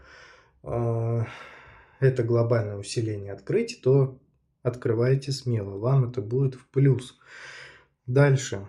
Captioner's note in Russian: вздыхает